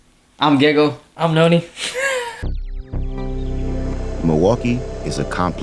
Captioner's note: chuckles